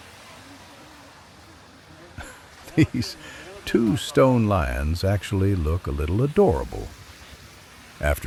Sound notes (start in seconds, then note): 2.1 laugh